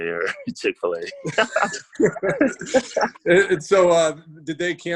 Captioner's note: laughs